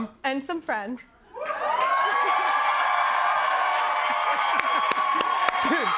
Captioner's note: cheers and applause